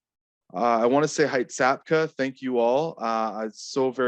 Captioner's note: speaking Hul'qumi'num